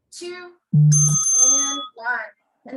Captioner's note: bell rings